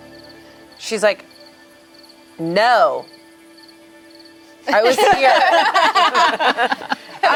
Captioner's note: group laughs